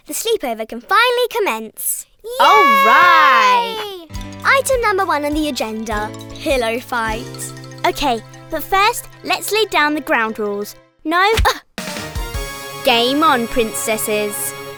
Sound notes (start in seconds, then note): 2.4 cheering; 11.3 thumping